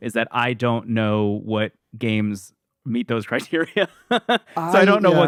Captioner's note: laughs